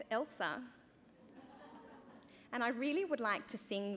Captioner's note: chuckling